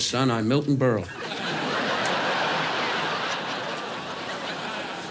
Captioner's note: audience laughs